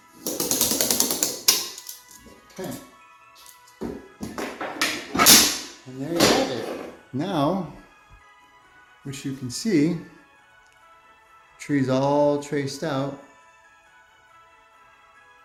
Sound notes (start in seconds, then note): 4.4 metal square clangs